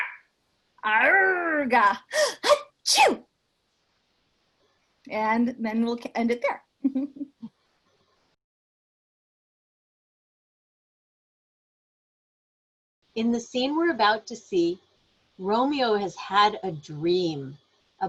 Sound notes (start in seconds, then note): 6.9 laughs